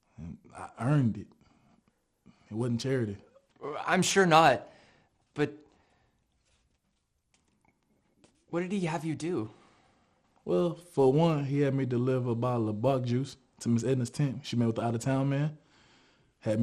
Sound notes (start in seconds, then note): none